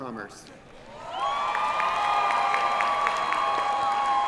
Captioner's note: cheering